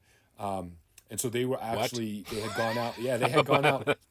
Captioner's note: laughing